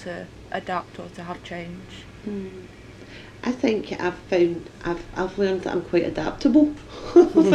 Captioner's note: laughs